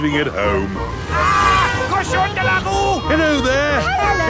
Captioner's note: yells